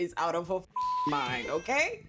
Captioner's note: beep